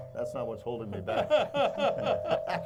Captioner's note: laughing